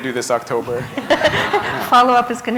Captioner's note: laughter